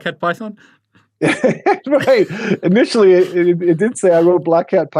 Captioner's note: laughs